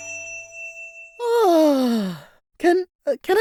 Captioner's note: ding!